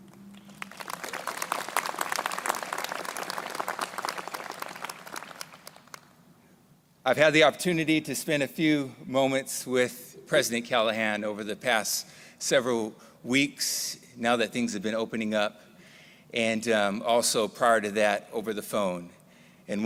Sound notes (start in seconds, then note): 0.3 crowd applauding